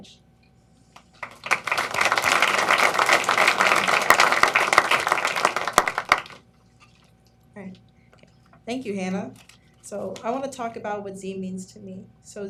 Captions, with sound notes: ACHIEVERS AT PARADISE VALLEY COMMUNITY COLLEGE. (APPLAUSE) THANK YOU, HANNAH.